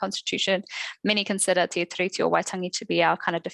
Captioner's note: non-english speech